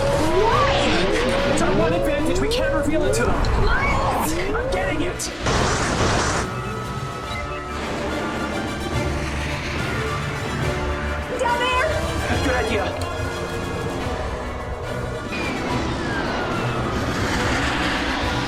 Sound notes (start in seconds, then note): 5.7 ship banging; 7.9 intense instrumental music